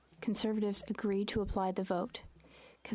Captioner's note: speaking French